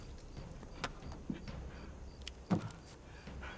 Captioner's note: birds chirping